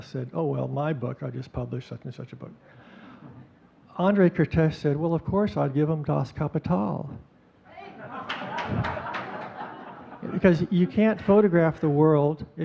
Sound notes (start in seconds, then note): 3.3 audience chuckling; 7.8 audience chuckling; 8.2 audience clapping